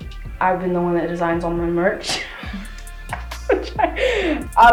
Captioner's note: laughs